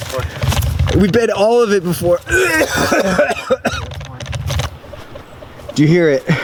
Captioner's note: heaving